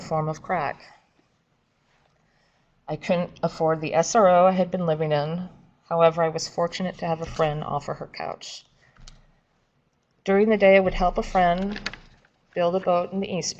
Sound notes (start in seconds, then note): 11.2 papers shuffling